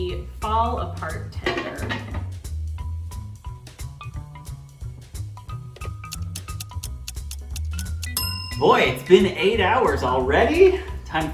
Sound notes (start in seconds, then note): 5.8 timer ticks; 8.1 timer DINGS